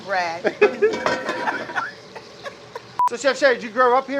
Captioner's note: both laugh